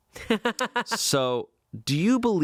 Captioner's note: laughing